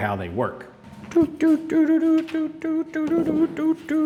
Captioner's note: humming